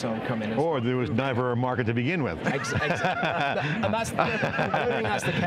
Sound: laughs

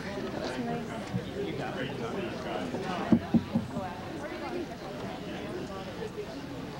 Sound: background chatter

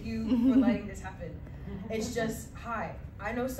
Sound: laughter

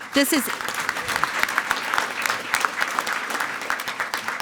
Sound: everyone applauding

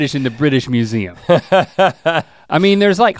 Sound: Rhett laughs

